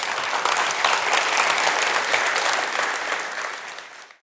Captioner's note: audience applauding